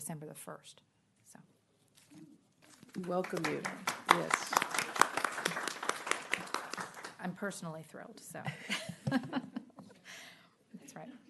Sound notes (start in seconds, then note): 2.8 applause